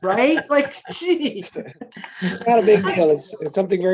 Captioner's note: laughing